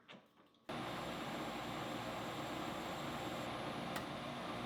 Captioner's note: machine whirring